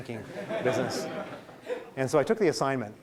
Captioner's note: laughing